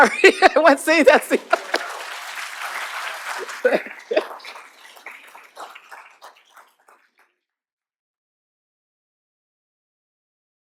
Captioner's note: laughter; applause